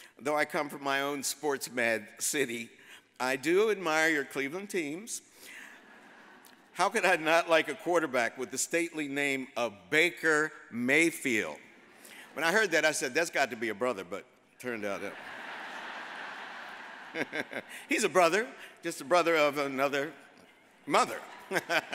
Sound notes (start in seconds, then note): 14.9 audience laughs; 21.3 laughs